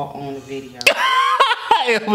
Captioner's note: laughing